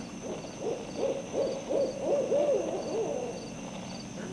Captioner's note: owls fx